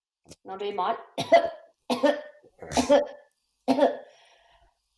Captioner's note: coughs four times; coughs four times